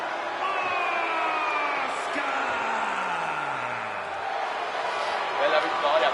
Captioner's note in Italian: urlo